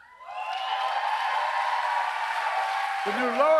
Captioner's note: applause